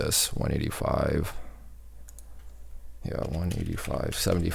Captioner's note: keys typing